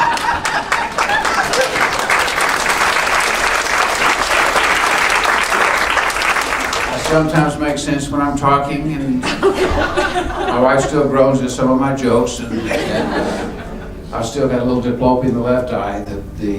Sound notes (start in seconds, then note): 0.0 laughing; 0.0 applauding; 8.6 laughing